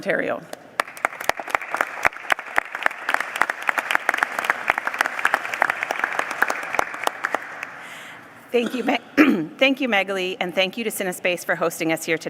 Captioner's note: applause